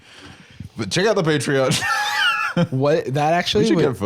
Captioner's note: laughs